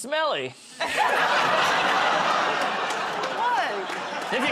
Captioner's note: laughter